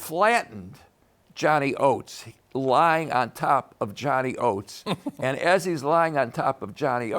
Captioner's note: chuckles